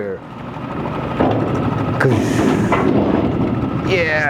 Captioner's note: claw banging